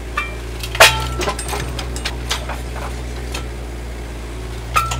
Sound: grappler squeaking

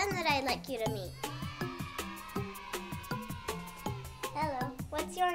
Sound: kids cheering

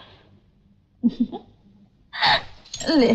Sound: chuckles

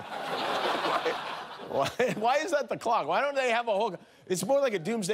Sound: laughter

